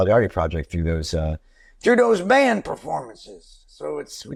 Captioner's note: Impersonating Springsteen